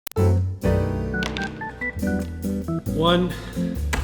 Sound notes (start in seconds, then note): 0.2 whimsical music; 1.2 dice clicking